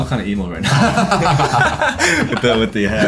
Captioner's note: everyone laughs